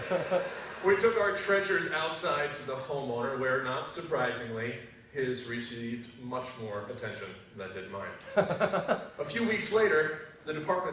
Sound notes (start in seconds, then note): 0.0 laugh; 8.3 laugh